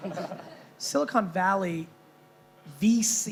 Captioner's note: chuckling